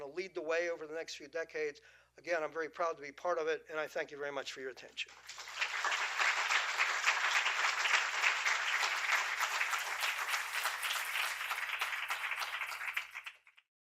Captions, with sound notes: to lead the way over the next few decades. Again, I'm very proud to be part of it. And I thank you very much for your attention. [APPLAUSE]